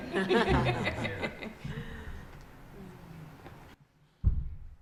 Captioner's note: panelists laugh